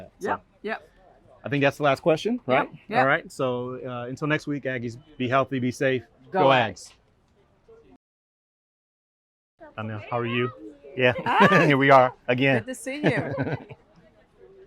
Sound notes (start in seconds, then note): 13.0 chuckles